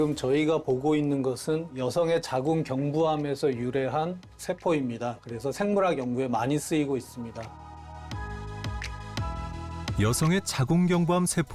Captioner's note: voiceover